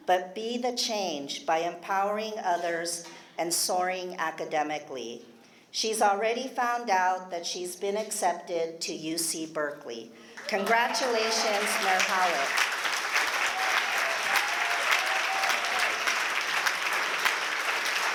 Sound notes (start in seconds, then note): 10.3 applause